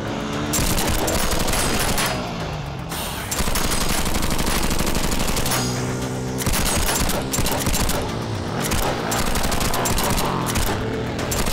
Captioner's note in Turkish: Silah sesi